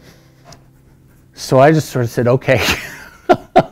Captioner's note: laughing